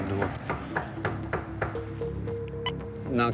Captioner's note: knocking; radio beeps